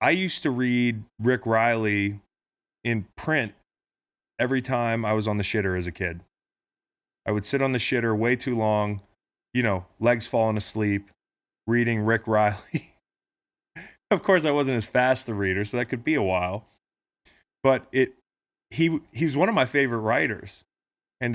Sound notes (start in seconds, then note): 12.6 laughing